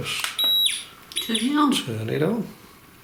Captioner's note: device beeping